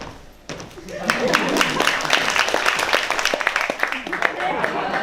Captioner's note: applause